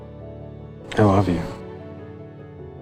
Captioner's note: voiceover